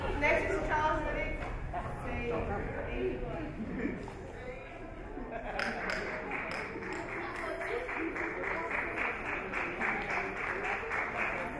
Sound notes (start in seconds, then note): 5.7 audience chatter; 7.3 audience applaud